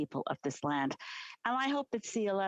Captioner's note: speaking alternate language